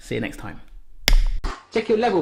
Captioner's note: slap